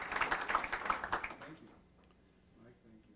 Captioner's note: applause